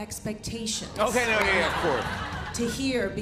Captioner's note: laughter